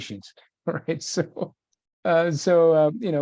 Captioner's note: chuckles